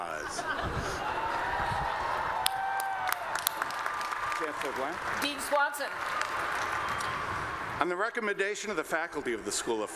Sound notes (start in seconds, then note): 0.1 laughter; 2.0 applause